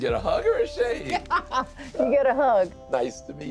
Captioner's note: laughs